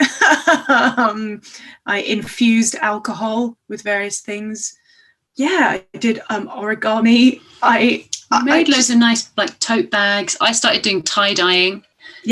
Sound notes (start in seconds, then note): 0.0 laughs